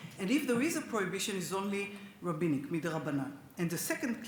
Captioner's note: speaks Hebrew